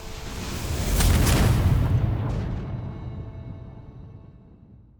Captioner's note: explosion booms